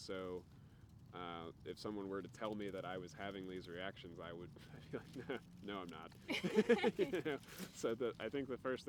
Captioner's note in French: rires